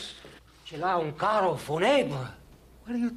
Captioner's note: speaking foreign language